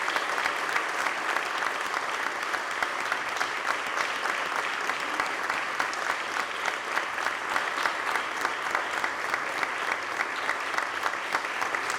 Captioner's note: applause